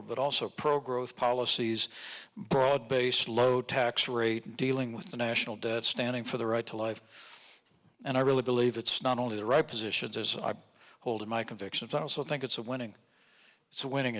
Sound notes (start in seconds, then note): none